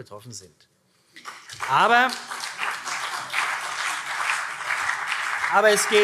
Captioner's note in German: Beifall